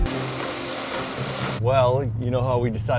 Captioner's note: thrilling music continues; excavator scraping the roof